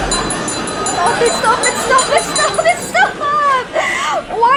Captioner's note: sobbing; choking on tears